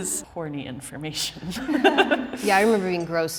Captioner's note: all chuckles